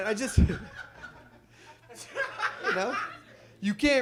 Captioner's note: audience laughs